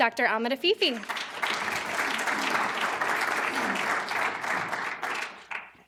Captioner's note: applause